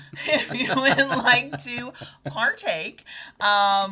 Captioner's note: both laughing